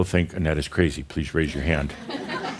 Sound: more chuckles, no one raises their hand

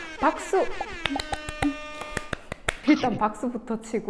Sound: clap clap clap!

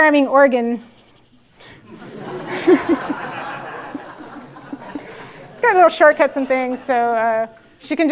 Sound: laugh

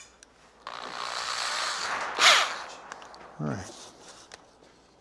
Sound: drilling

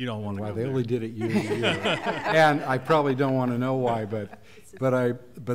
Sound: laughter

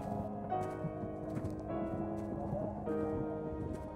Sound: wind whistles

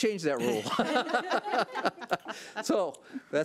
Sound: laughs

